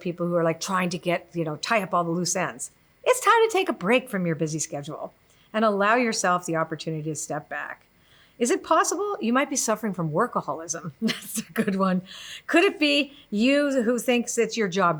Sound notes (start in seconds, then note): 11.0 laughs